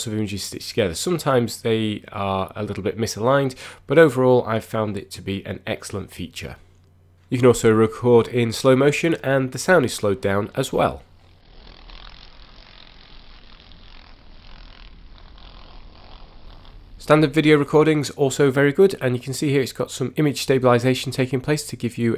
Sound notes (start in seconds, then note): 12.5 slowed down buzzing sound